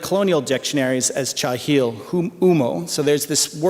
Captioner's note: non-english speech